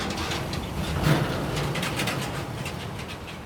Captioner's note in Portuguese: som de obra, máquinas trabalhando